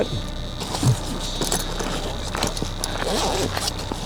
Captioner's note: device buzzing